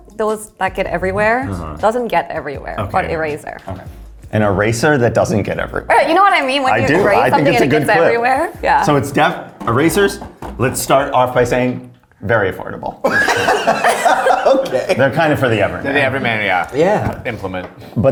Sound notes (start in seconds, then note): 13.0 laughs